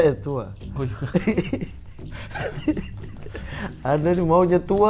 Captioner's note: chuckling